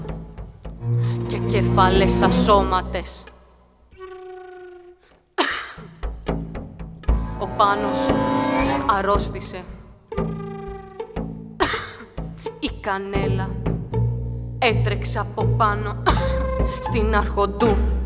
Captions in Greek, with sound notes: και κεφαλές ασώματες. (βήχας) Ο Πάνος αρρώστησε. (βήχας) Η Κανέλα έτρεξε από πάνω, στην Αρχοντού,